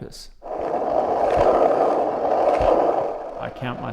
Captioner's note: skateboard rolling